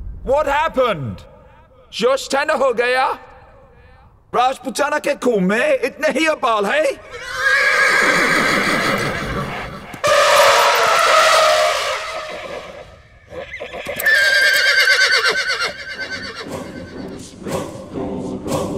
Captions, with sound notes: What happened? Has your rage died down? Is that all the rage that's in royal blood? [Horses neighing] [Elephants roaring]